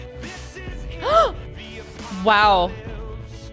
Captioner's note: gasps